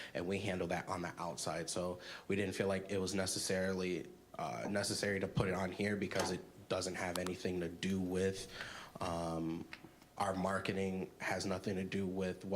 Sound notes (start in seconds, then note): none